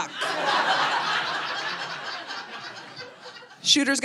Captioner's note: audience laughing